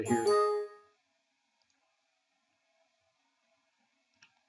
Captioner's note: electronic chirping sound